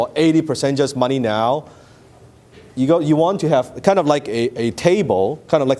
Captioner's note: none